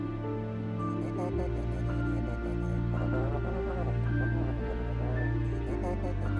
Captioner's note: guards chatting